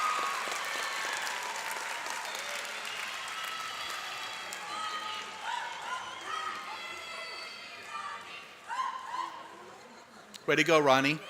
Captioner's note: cheers and applause